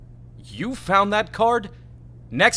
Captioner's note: none